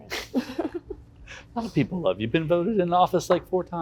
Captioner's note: laughs